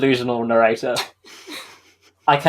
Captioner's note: laughs